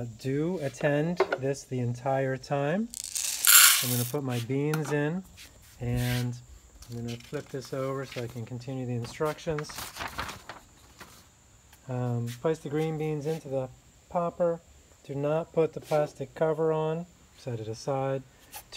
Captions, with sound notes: Do attend this the entire time. (beans rattling) I'm gonna put my beans in and I'm gonna flip this over so I can continue the instructions. (paper rustling) Place the green beans into the popper. Do not put the plastic cover on, set it aside.